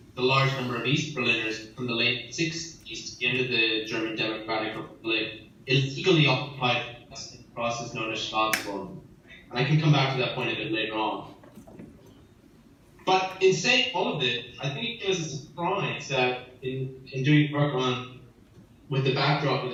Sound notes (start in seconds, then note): 8.4 in foreign language